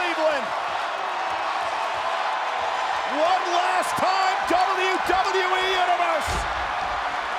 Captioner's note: applause